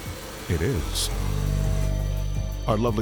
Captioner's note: saw buzzing